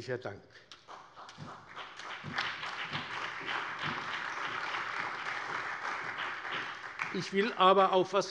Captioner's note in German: Beifall